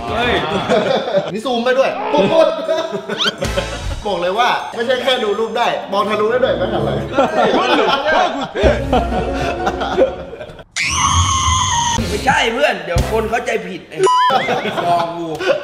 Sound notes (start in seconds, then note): 1.9 laughs; 6.3 laughs; 10.7 screams